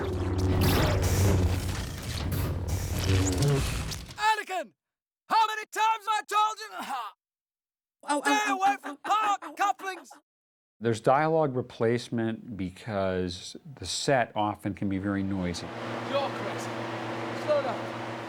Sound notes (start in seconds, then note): 0.2 pulsating Sound |; 7.3 groans